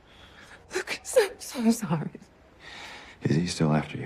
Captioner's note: crying